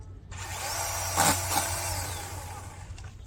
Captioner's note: chainsaw revs